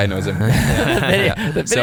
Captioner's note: laughing